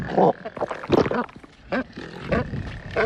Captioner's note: gulp